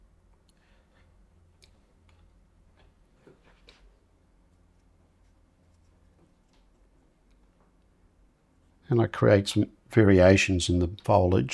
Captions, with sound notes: [silence] And I create some variations in the foliage.